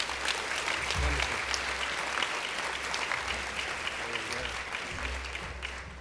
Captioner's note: applause